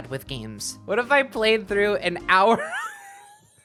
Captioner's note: wheeze laughing